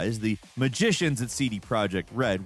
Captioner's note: none